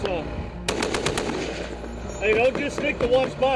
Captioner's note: artillery roars